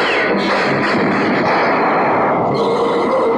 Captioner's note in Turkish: Silah sesleri